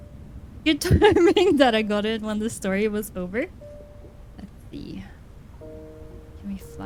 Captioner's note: laughs